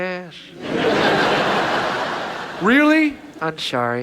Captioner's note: audience laughs